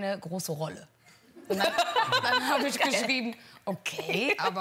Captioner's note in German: Gelächter